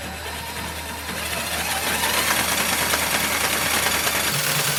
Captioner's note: machine whirring